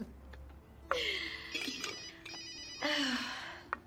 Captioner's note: laughs; cell phone rings